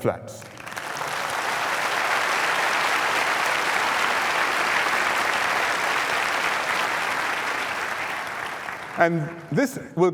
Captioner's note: applause